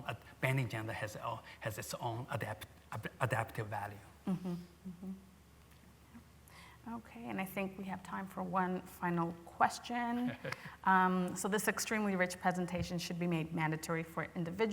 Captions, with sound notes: bending. gender has its own adaptive value. - Yeah. OK. And I think we have time for one final question. - [chuckles] - So this extremely rich presentation should be made mandatory for individuals,